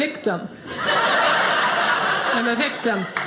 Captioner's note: audience laughing